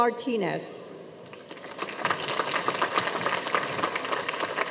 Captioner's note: audience applauds